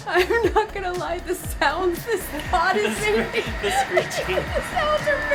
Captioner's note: both laugh; laughs nervously